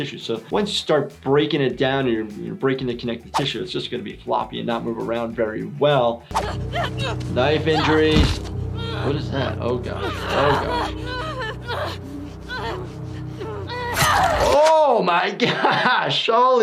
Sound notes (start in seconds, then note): 6.4 woman yells; 11.8 woman whimpering; 14.0 knife stabbing